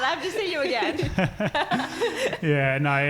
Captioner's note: laughing